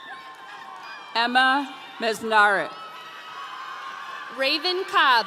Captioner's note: audience cheering